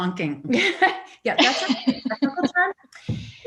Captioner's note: laughs